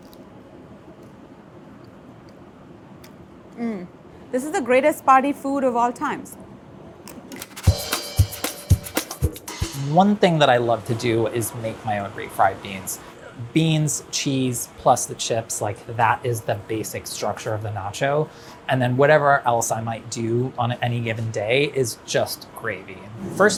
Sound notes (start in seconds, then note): 0.0 chip crunches; 3.0 lips smacking; 7.5 upbeat jazz music